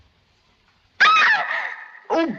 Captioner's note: scream